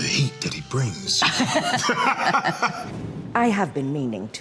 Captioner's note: both laughing